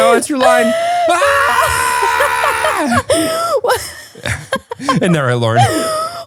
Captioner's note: laughs